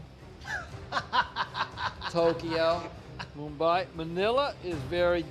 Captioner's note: laughs